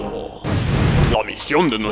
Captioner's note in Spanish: explosión épica